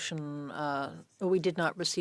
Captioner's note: speaking French